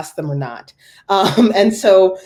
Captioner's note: laugh